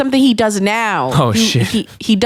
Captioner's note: chuckles